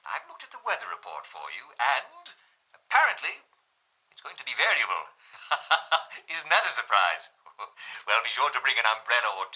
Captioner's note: laughs